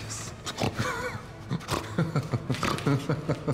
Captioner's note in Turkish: Gülme sesi